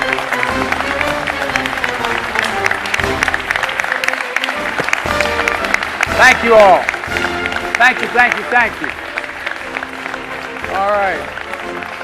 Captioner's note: applause